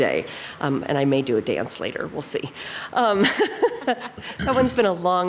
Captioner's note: laughs